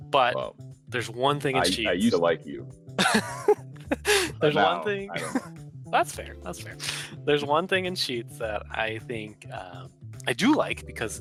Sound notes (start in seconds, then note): 3.9 laughs